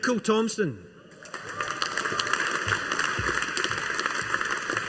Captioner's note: audience applauding